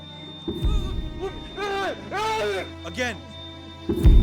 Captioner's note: groaning and yelling